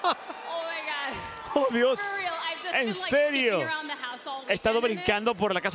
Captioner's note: laugh